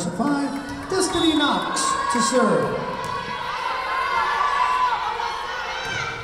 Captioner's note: whistle blowing